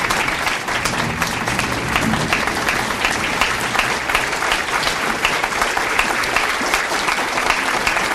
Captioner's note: audience applauds